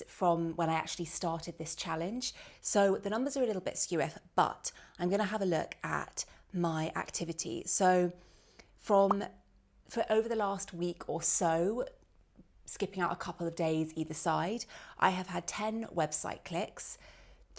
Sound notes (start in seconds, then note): 9.0 bubble popping